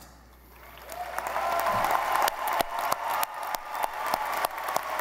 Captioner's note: audience applauding